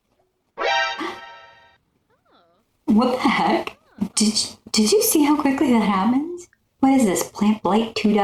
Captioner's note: metal gear ! sfx; gasp